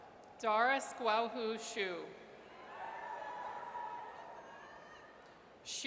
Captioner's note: audience cheers